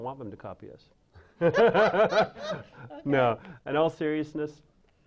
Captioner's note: laughing